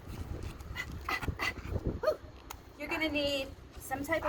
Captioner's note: panting breaths